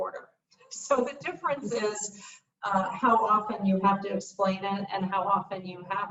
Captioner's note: laughs